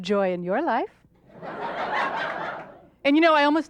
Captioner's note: audience laughs